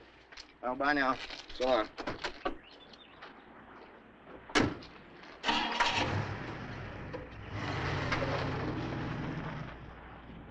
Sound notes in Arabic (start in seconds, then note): 2.1 تغريد الطيور; 5.4 هدير محرك السيارة